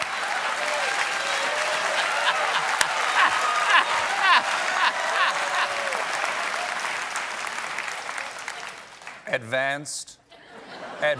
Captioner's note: applause; laughter; cheers